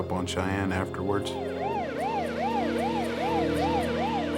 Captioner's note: sirens wailing